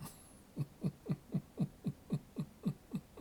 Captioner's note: chuckles